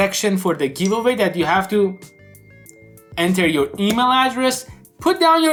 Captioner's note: phone dings